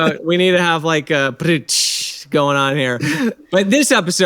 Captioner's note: imitates drums